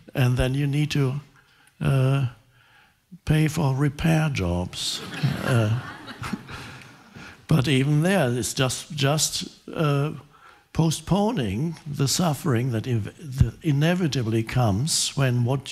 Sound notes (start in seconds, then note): 4.9 audience laughing